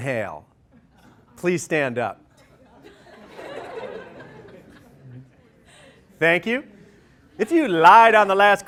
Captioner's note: laughter